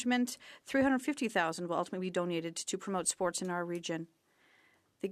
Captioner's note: speaking French